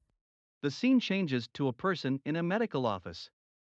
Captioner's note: voiceover